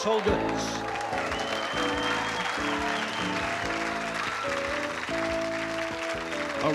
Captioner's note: applause